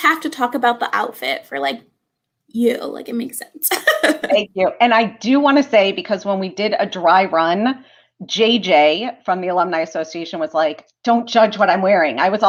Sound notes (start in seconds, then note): 3.7 laughter